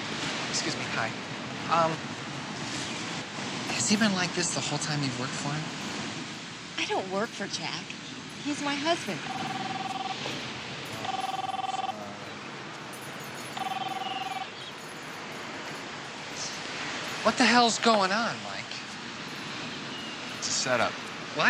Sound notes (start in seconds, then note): 8.4 phone rings